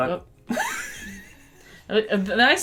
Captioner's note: laughter